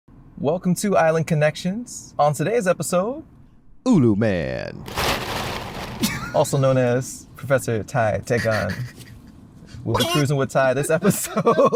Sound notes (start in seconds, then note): 4.8 leaves rustling; 6.0 laughter